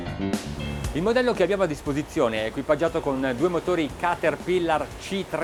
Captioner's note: speaking in foreign language